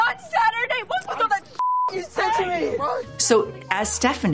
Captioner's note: beeping